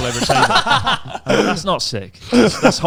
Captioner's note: all laughing loudly